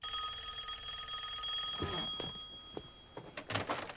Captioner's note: rings